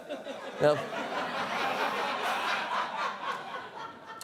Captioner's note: laughter